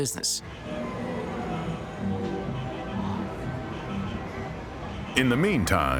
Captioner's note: people chattering; cheerful music